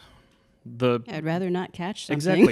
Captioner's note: laughing